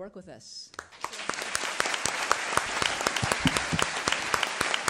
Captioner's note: attendees applauding